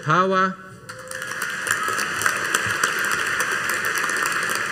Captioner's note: audience applauding